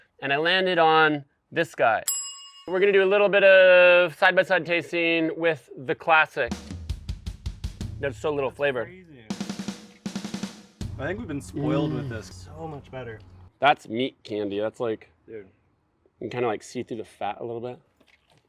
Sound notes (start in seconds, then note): 2.0 bell dings; 6.5 drum beating